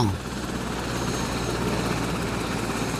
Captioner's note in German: Hubschrauberlärm